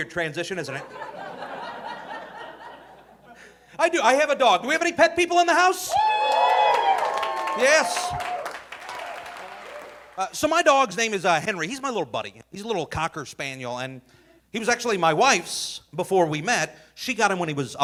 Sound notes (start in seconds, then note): 0.7 audience laughing; 5.8 audience cheering